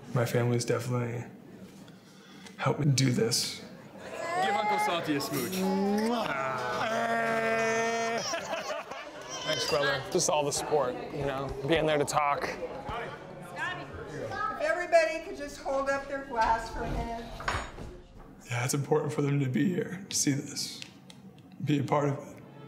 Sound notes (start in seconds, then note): 4.1 baby crying; 6.0 adults laughing